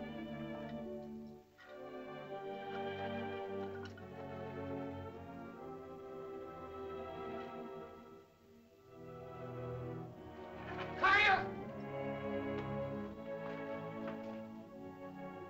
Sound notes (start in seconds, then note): 1.8 ominous music; 11.0 Tumak shouts; 13.4 soft music